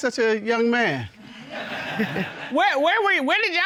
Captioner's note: audience laughing